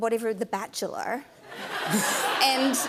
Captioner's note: laughter